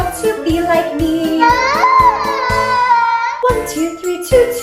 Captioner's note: baby cries